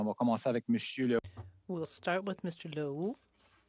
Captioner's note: speaking French